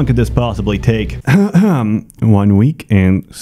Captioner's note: ahem